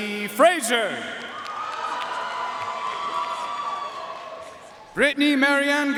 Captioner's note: audience cheering and applauding